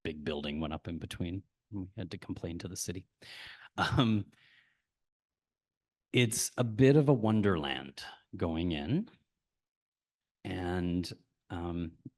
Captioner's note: chuckles